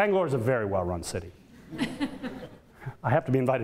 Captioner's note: audience laughter